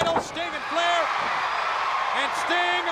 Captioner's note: crowd cheering